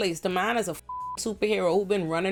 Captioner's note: beep